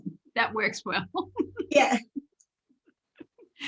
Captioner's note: laughing